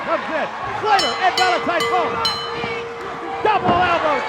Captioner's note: bell ringing